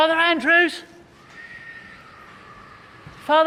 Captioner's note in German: pfeift Wind